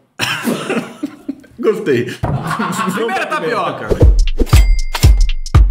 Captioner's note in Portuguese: risos